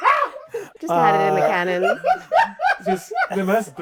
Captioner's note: laughing